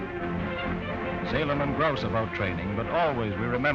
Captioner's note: voiceover